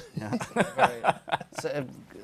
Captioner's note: laughter